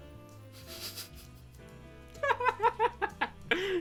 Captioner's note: chuckles